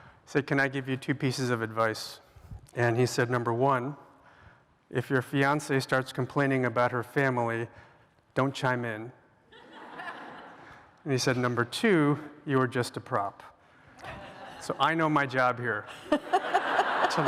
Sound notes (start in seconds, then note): 9.5 laughter